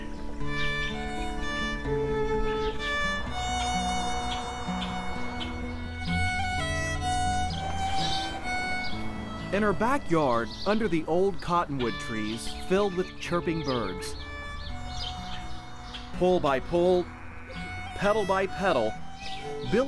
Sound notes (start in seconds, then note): 14.3 birds chirping